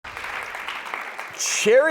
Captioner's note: audience applauding